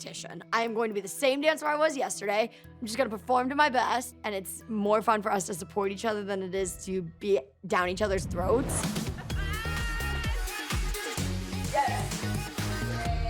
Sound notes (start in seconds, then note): 8.8 laughing